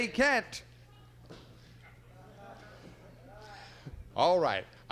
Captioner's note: audience shouting